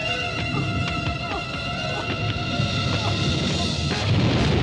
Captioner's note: grunting